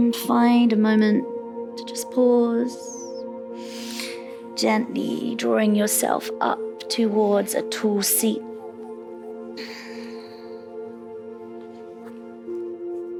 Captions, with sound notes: And find a moment to just pause (inhales) gently drawing yourself up towards a tool seat. (calm music)